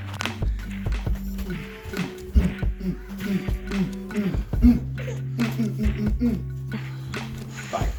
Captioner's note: playing noises, giggling